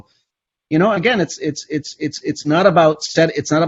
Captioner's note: stammers